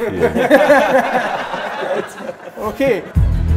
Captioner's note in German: Lachen; Spannungsvolle Musik